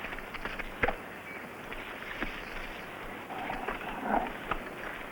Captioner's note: birds chirping